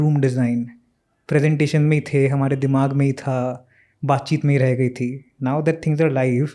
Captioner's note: speaks in Hindi